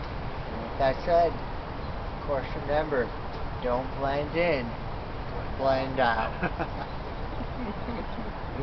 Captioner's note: laugh